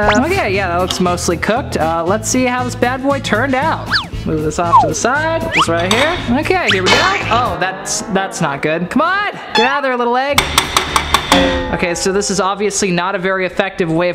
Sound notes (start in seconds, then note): 10.4 clanging